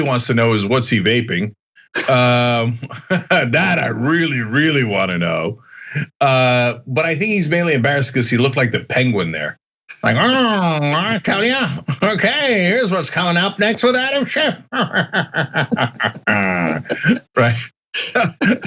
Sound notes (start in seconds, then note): 1.9 laugh; 14.6 laugh